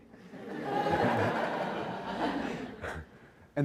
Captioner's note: laughter